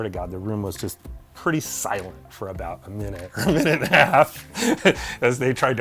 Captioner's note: laughing